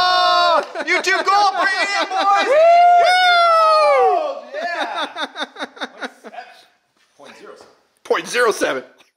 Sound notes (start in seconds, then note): 1.7 cheering; 4.4 laughing